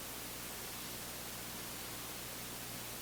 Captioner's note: none